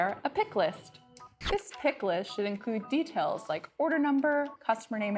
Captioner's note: zoom sound effect